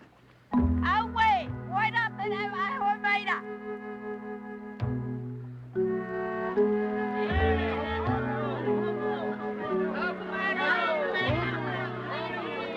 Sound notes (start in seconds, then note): 0.2 exclaiming; 7.2 villagers shouting